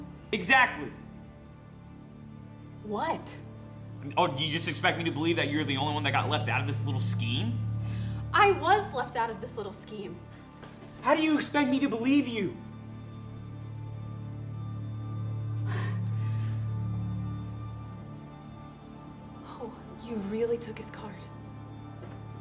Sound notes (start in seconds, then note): 13.1 gentle suspenseful music; 15.7 Mae gasps